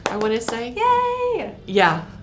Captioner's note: applause